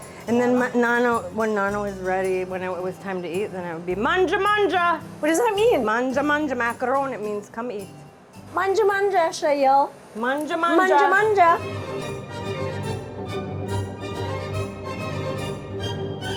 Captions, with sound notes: - And then when nana was ready, when it was time to eat, then it would be, (speaking in foreign language). - What does that mean? - (speaking in foreign language) means come eat. - (speaking in foreign language) (both speaking in foreign language) (upbeat elegant music)